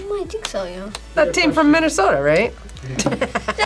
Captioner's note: laughs